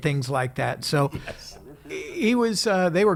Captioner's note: laughs